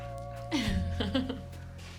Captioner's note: laughs